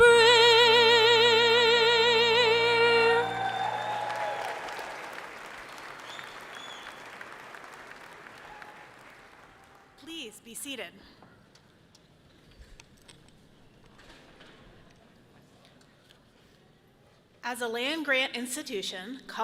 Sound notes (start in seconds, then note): 3.0 audience cheering loudly